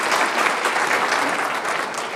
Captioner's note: applause